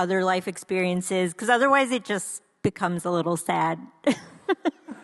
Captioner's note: laughs